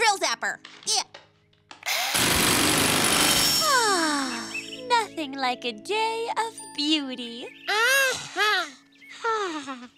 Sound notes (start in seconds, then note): 1.9 whirring; 3.6 sighs; 8.3 exhales happily